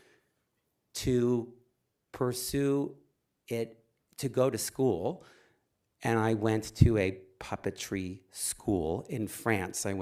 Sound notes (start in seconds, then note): none